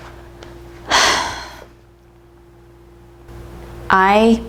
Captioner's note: sigh